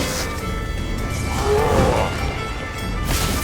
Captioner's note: roar